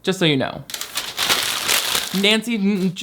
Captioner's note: papers rustling